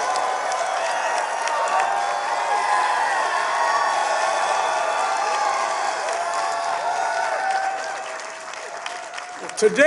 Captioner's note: applause